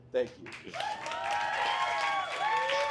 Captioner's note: audience applauds and cheers